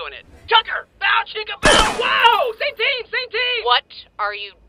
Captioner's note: gunshot